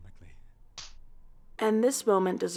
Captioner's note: forehead smack